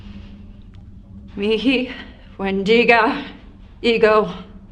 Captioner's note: foreign language